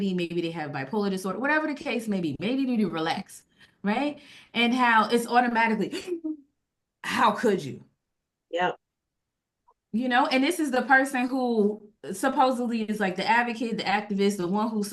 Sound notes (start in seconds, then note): 4.2 gasp